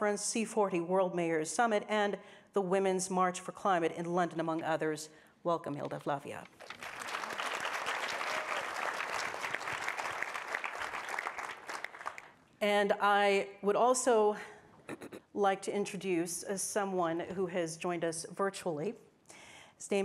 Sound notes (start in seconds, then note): 6.6 audience applauding